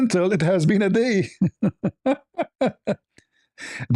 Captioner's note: ketawa